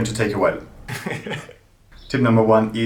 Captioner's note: chuckling